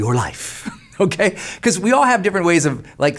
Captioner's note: laughs